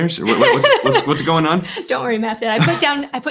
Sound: laughing

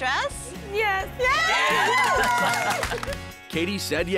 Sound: cheering

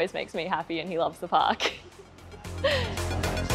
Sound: chuckles; upbeat energetic music

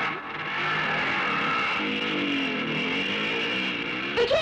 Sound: motorcycle engine revving

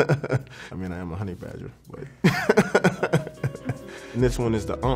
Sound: laughs

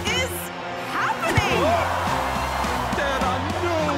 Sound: crowd cheering

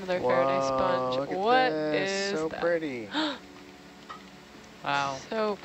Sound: gasps

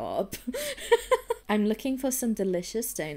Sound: laughs

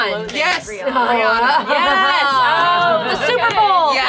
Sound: all exclaiming

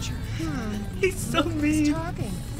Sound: giggle

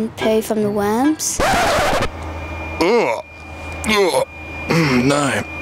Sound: record scratches

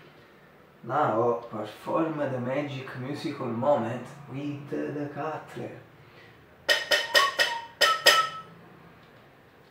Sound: whistle

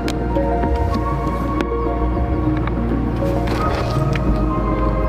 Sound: velcro ripping

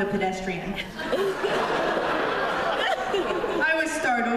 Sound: laughter

